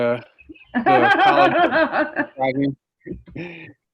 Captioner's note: laughing in the background